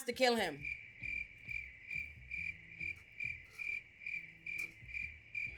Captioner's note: crickets chirping